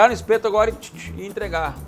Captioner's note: imitates the sound of roasting meat